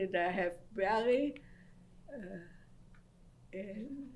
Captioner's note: pauses for 3 seconds